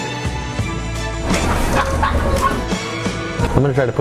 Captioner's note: laughs